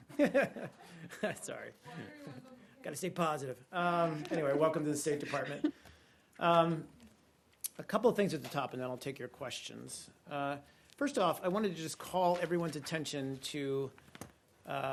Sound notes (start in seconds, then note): 0.0 laughter